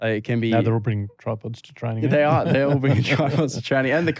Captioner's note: laughter